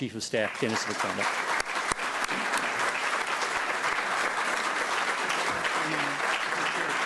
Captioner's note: applause